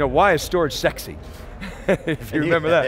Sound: laughing

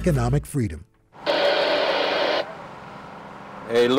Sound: radio static

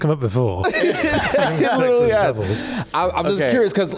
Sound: laughs

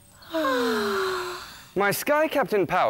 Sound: sigh

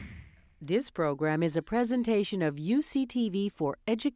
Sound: voiceover

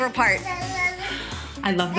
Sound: child babbles

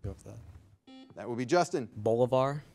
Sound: buzzer beeping

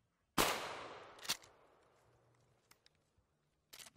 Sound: gunshot

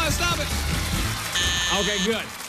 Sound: buzzer sounds

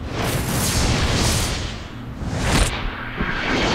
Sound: magic sound

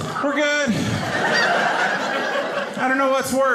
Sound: audience laughing

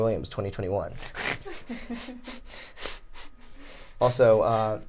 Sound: all laugh

